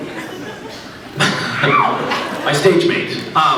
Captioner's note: laughs